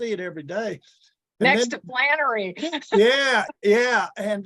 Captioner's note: chuckles